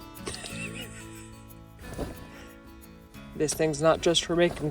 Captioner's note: laughing